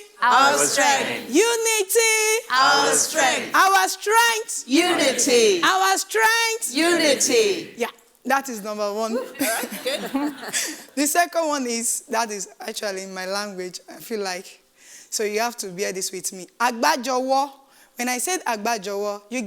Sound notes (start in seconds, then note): 9.2 audience laughs; 16.8 speaking in foreign language